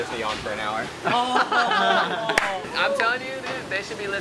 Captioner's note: group laughs